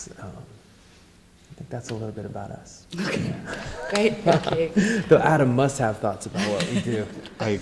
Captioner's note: laughs